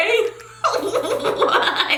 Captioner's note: laughing